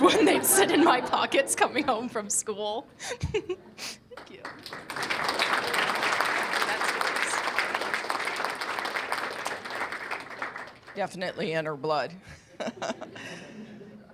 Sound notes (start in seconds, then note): 5.3 applause